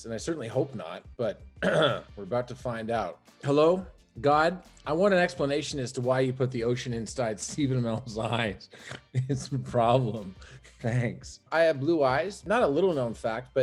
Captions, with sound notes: and I certainly hope not, but, (clears throat) we're about to find out. "Hello? God? I want an explanation as to why you put the ocean inside Stephen Amell's eyes, it's a problem, thanks." I have blue eyes, not a little known fact,